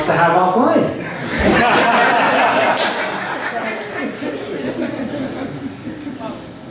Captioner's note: laughter